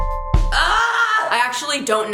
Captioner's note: mellow music; groaning